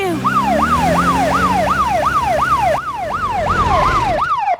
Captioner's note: siren